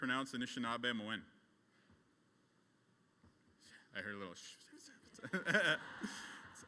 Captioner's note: laughs